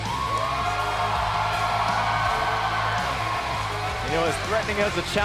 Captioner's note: cheers & applause